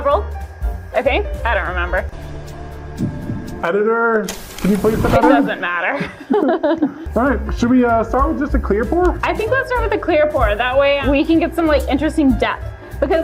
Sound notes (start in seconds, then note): 2.5 dramatic music; 5.8 both laughing